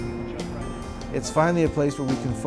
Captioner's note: voiceover